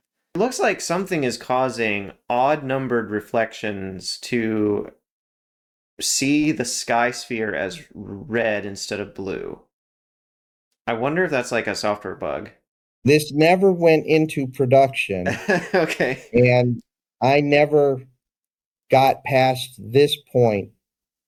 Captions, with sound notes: It looks like something is causing odd-numbered reflections to see the sky sphere as red instead of blue I wonder if that's like a software bug This never went into production (laugh) Okay and I never got past this point